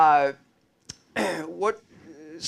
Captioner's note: clears throat